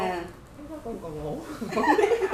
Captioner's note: laugh